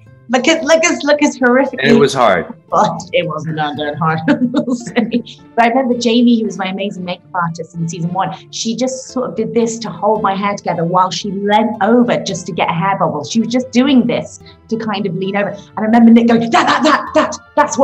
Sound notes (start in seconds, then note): 4.3 laughing